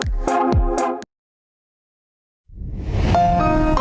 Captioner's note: none